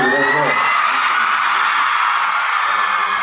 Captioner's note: everyone screams